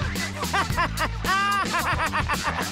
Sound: laughing

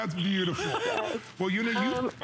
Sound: laughter

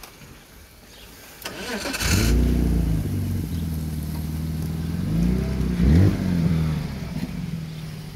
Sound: engine Starts

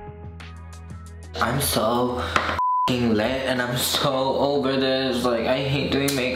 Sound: beep

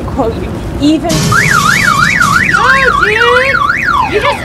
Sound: crash, cat shrieks, car alarm blares

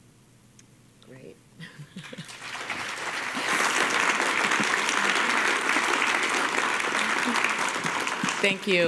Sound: applause

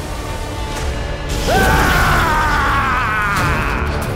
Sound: yelling

